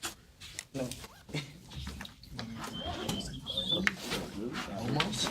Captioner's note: students murmur; students murmur